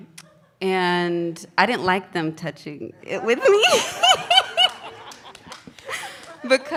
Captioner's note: laughs